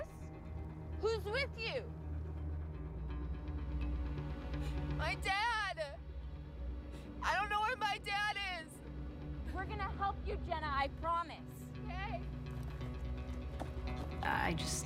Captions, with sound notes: "U-US"? WHO'S WITH YOU? [ Voice breaking ] MY DAD. I DON'T KNOW WHERE MY DAD IS. WE'RE GONNA HELP YOU, JENNA. I PROMISE. OKAY. I JUST -- I THOUGHT